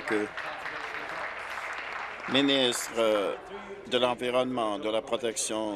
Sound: applause

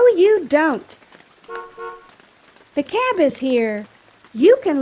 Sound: horn honks

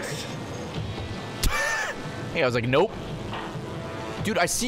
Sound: laughs

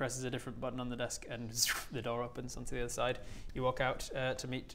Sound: zrrooofh

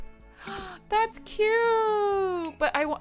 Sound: gasps

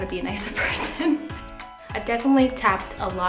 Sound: laughs

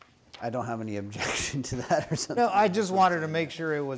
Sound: chuckling

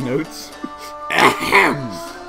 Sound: ahem

